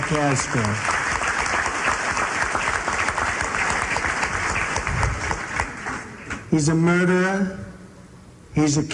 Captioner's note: applause